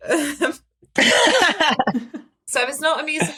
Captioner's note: laughs